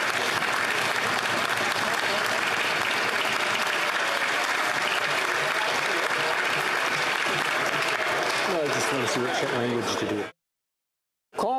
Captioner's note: applause